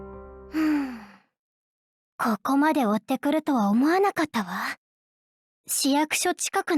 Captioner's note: sigh